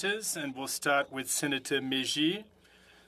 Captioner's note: speaking French